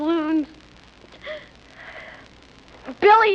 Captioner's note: sobs